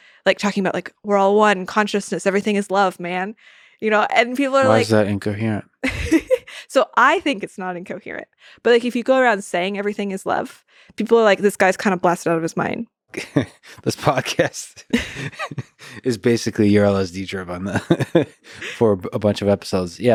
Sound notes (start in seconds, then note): 5.9 laughs; 13.1 laughs